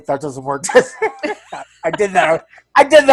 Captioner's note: laugh